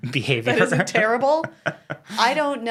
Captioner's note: laughs